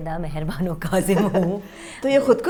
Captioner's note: giggles